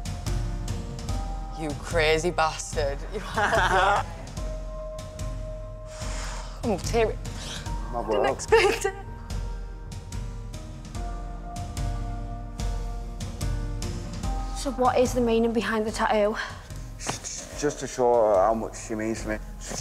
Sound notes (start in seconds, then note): 3.2 laughs; 5.8 exhales